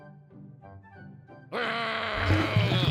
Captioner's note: groaning